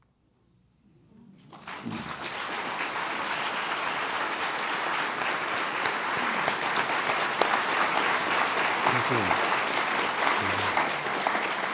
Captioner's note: applause